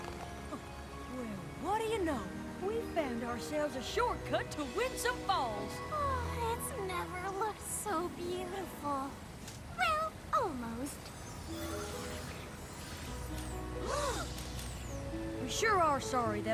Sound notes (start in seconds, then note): 11.0 tinkling; 13.8 all gasp